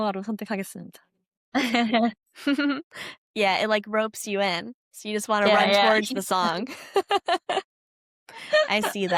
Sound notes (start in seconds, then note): 5.4 laughs